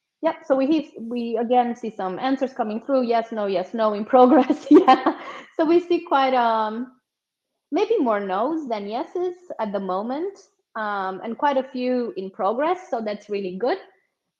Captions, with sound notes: Yep, so we again see some answers coming through yes, no, yes, no, in progress. (laughs) So we see quite maybe more nos than yeses at the moment and quite a few in progress. So that's really good.